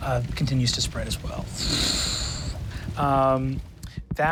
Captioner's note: imitates fire whoosh